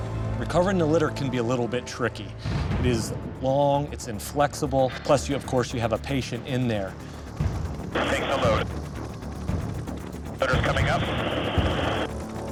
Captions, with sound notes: - Recovering the litter can be a little bit tricky. It is long. It's inflexible, plus you, or course, you have a patient in there. - [Man Over Radio] Take the load. Litter's coming up.